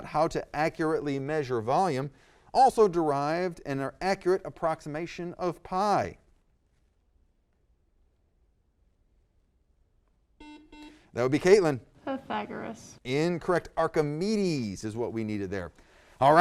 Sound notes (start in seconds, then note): 10.4 buzzer